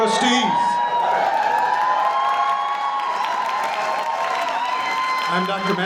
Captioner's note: audience cheering